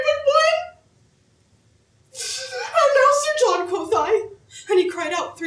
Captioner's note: crying